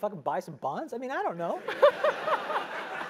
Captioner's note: laugh